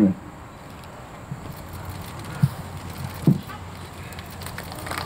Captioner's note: cameras shuttering; audience applauding